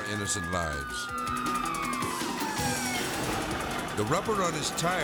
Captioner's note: sirens wailing